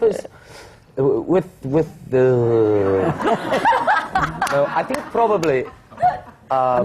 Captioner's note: laughter